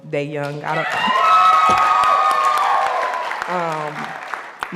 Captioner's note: audience applauding